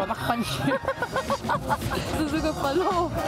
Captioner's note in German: Frau lacht